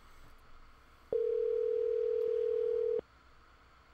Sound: phone ringing

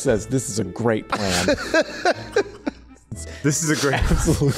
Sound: cannot stop laughing

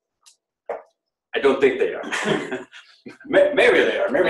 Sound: laughs

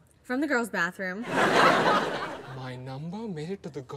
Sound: audience laughs

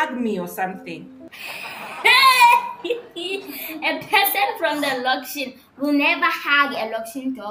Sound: bursts out laughing

